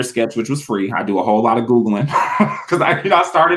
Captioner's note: laughs